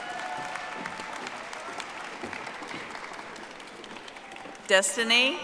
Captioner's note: audience applauding